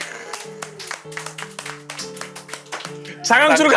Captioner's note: applauding